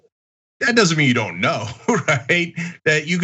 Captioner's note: laugh